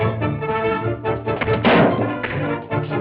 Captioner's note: box clatters